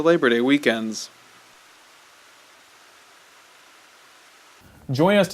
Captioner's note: sound of water splashing from the fountain